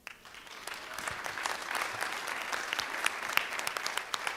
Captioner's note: applause